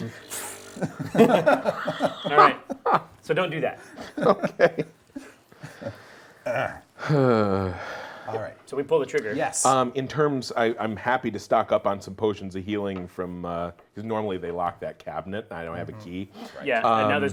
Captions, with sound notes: - So don't do that. - Okay (big sigh). - So we pull the trigger. - In terms, I'm happy to stock up on some potions of healing because normally they lock that cabinet, and I don't have the key.